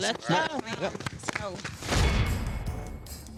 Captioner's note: all applauding